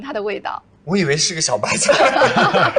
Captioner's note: hahahaha